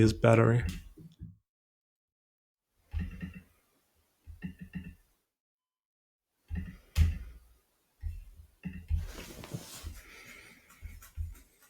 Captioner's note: silence